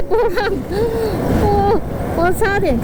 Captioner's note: gasps